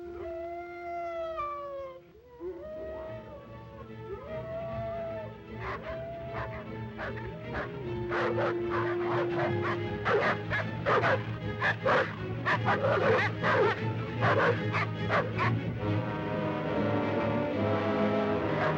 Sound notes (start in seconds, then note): 0.2 dogs howling; 2.7 suspenseful music; 4.2 dogs barking; 5.5 suspenseful music; 18.3 dogs barking; 18.6 suspenseful music